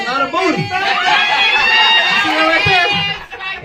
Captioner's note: audience cheering